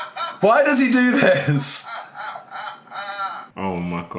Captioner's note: laughing